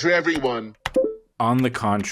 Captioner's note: typing noises